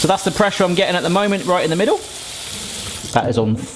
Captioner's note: water running